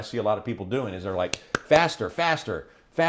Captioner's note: clapping